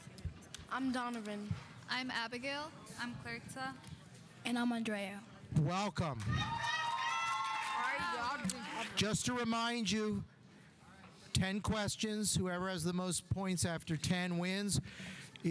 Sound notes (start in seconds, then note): 6.2 audience applauding; 6.2 audience cheering